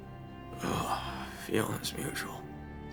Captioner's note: coughing; groans